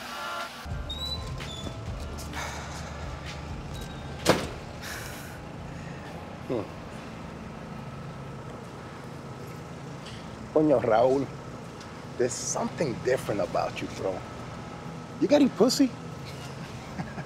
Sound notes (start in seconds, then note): 11.1 spanish; 16.5 laughs